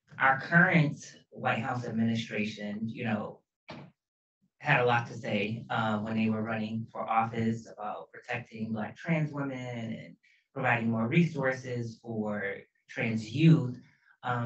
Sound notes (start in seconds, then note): none